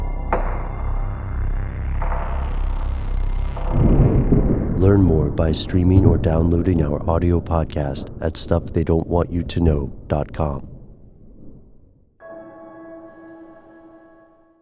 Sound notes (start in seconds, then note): 0.0 dissonant music; 3.7 thunder crashing; 12.2 dissonant piano chords